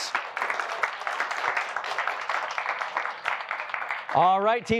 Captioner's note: applause